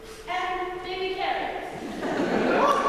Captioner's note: laughter